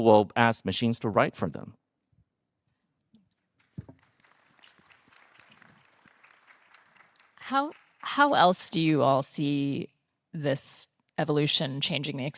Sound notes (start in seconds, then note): 3.7 participants applauding